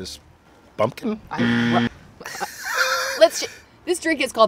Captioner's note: buzzer buzzes